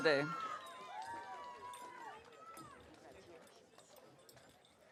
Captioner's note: audience cheering